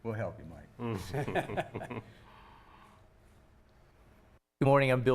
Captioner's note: laughing